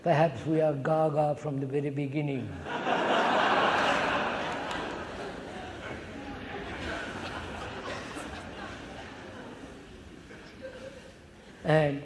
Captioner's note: laughter